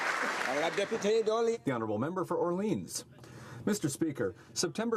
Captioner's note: some Applause